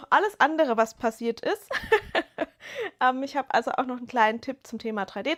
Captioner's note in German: gelächter